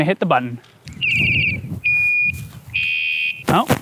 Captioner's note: chirp, beep, ringringring